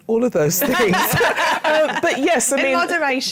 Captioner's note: laughter